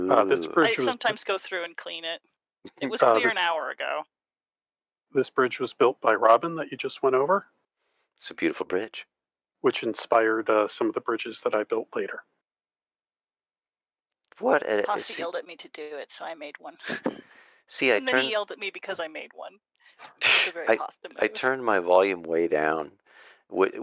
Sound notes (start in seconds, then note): 16.8 laughter; 20.0 laughs